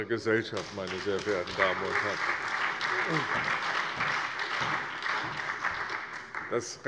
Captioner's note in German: Allgemeiner Beifall